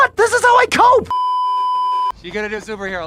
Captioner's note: beeeeeeeeeeeep